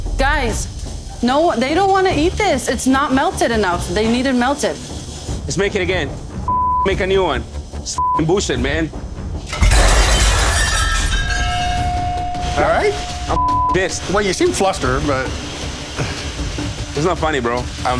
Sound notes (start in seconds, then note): 8.0 beep; 9.5 plate clatters; 13.2 beep